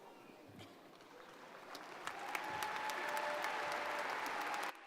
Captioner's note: crowd applauding